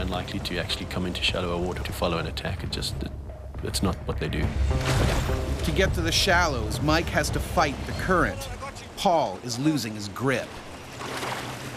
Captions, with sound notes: - They're very unlikely to actually come into shallower water to follow an attack. It's not what they do. - [Voiceover] To get to the shallows, Mike has to fight the current. Paul is losing his grip.